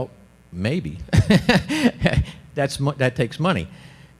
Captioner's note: laughs